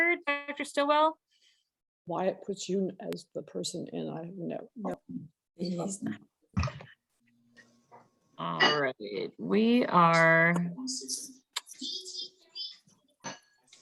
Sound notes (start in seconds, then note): 5.6 microphone distortion